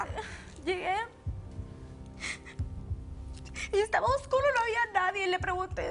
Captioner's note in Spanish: Sollozando